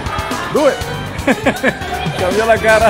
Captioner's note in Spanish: se ríe